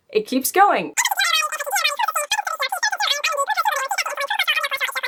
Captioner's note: high pitch talking